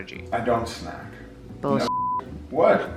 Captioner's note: beep